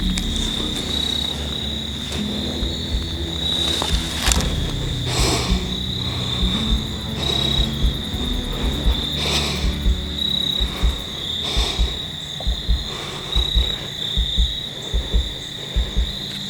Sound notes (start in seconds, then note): 3.6 clicking release on string, heavy breathing